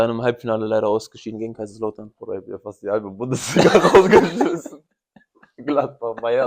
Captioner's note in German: gelächter